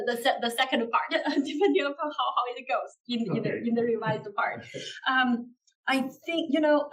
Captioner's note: laugh